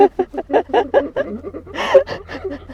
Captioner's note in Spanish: risas